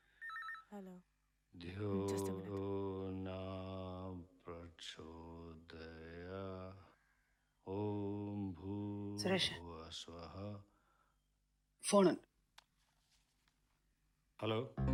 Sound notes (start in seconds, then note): 3.2 humming